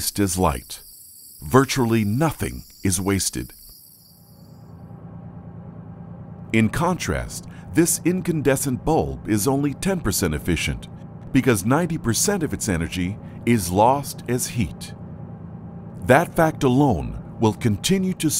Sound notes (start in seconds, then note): 4.3 generator revving